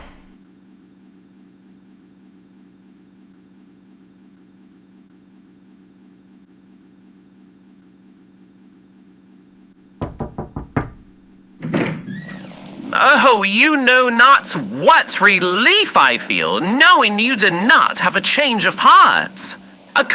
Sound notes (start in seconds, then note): 0.0 walks away and door closes fx; 10.0 Listener knocks on Alastor's door fx